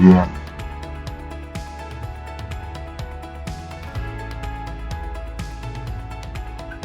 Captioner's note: laughs